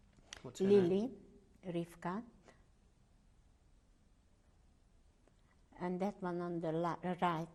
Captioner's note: pauses for 3 seconds